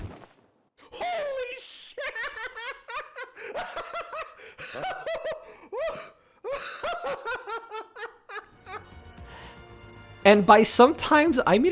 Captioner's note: maniacal laughter